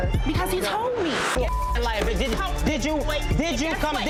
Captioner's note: beep